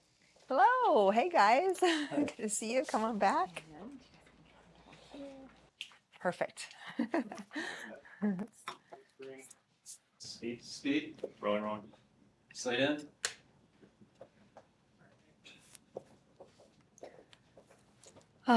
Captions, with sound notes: Hey, guys. Good to see you come on back. Perfect. (laughter) - Rolling, rolling. Slate in.